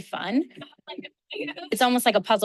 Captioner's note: people chattering